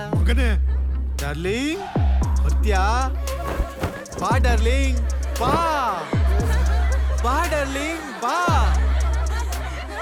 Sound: students Laugh in the backgroud

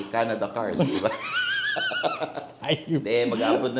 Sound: laughs

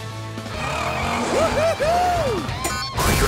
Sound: cheering

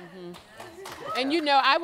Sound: audience applauds

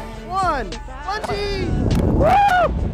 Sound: wind whooshing; cheering

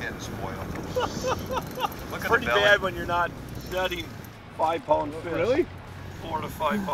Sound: laughing

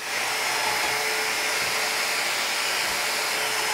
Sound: drilling wood

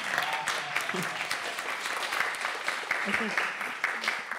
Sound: applause

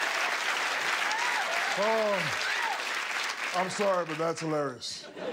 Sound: laughter and applause

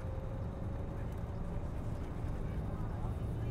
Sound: bus hums

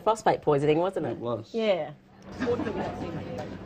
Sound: chatter

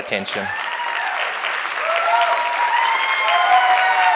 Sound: applause

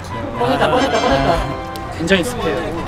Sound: ta-da

